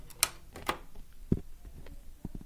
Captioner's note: click